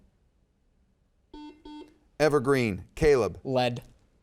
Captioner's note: buzzer dings